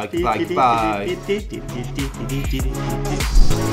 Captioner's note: humming; energetic music